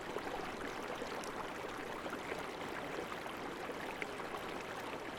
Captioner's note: river flowing